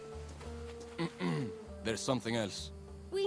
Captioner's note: clears throat